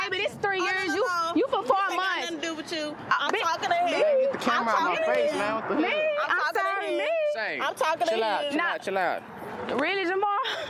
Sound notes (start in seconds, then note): 5.7 overlapping chatter